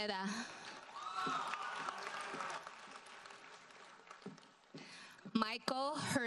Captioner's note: audience cheers and applauds